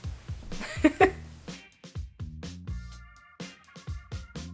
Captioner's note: laughs